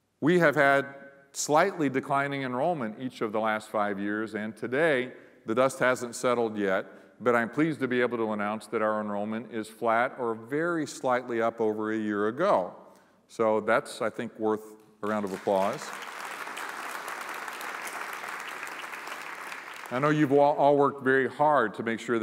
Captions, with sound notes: We have had slightly declining enrollment each of the last five years. And today the dust hasn't settled yet, but I'm pleased to be able to announce that our enrollment is flat or very slightly up over a year ago. So that's I think worth a round of applause. [applause]. I know you've all worked very hard to make sure